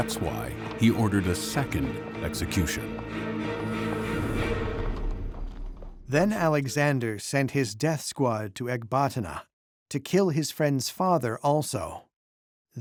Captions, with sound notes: That's why he ordered a second execution. [suspenseful music stops] [in German] Then Alexander sent his death squad to Ecbatana to kill his friend's father also.